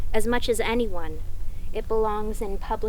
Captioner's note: none